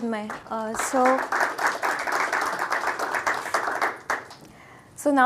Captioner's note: audience applauding